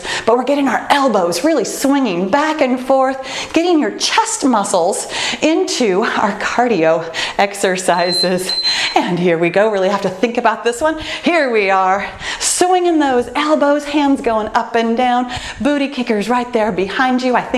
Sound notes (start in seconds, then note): 7.9 bell dinging